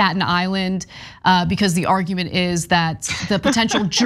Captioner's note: laugh